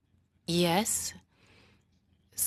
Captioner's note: speaking French